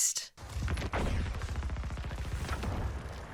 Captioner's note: guns firing